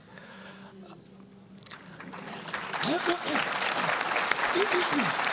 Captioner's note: applause